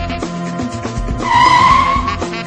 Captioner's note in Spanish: Derrape sobrecogedor